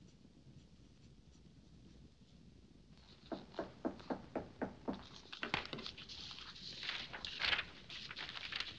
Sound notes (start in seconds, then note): 3.2 knocking